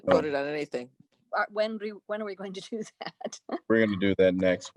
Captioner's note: laughter